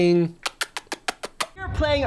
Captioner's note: kissing sounds